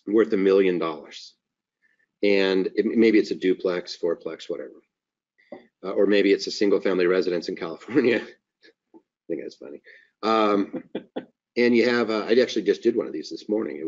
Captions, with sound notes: worth a million dollars. Maybe it's a duplex, fourplex, whatever. Or maybe it's a single family residence in California. (laughing) I think that's funny. I actually just did one of these this morning.